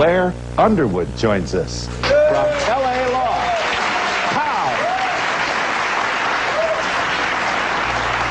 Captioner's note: audience claps